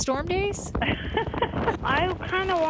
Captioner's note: woman laughs